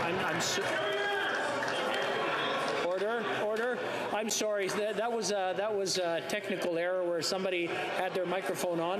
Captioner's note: yelling